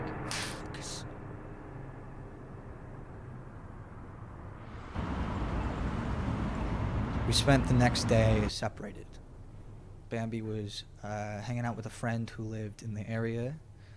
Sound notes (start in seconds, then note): 2.9 hand slaps; 5.3 traffic hums